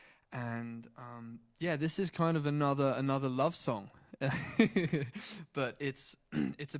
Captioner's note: laughs